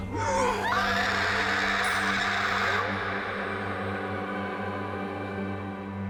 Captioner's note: pale woman roars; Rachel shrieks; somber music